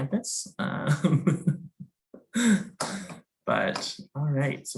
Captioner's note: laughing